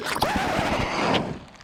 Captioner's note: needle scratches across record